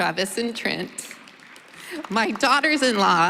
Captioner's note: applause